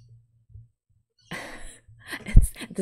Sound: laughs

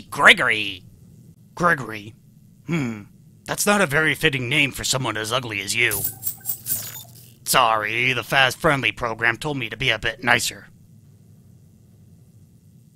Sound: noise plays then becomes a bit apologetic

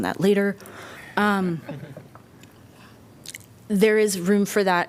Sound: laughter

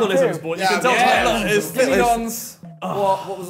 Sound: group audibly agrees

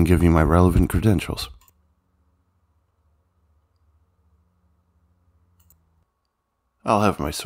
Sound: silence

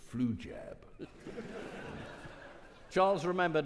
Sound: audience laughing

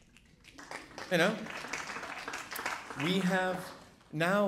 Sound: audience applauding

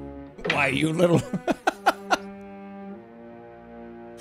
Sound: laughs

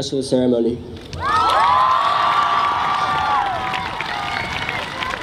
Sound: audience cheers

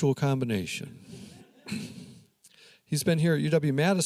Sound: audience laughing

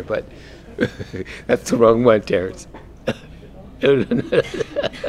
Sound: laugh

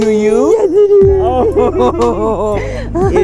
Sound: laughing

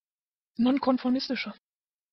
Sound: fast Pronunciation

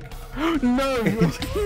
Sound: gasps

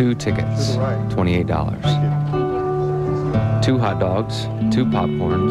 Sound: soundbite of archived recording

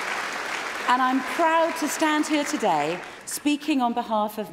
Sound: applause

